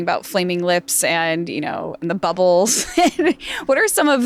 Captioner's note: laughs